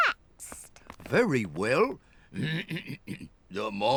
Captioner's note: clears throat